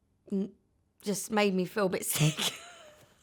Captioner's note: laughs